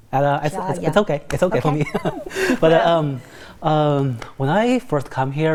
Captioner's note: laughs